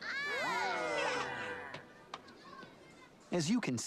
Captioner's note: klorms cheering